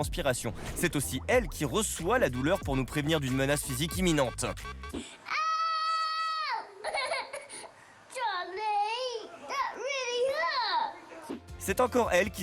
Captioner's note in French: cri; rires